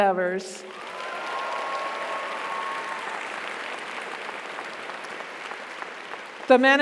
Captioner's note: audience applauds; audience cheers